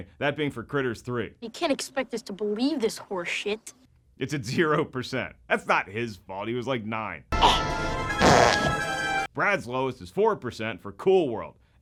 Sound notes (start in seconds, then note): 8.2 gurgling